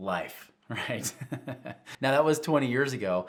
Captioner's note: laughing